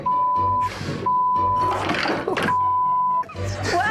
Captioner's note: loud banging